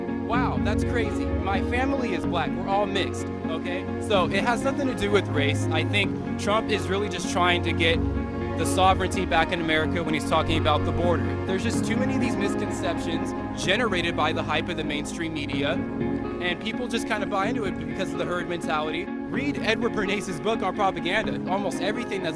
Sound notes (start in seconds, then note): none